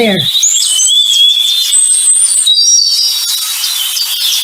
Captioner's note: birds chirping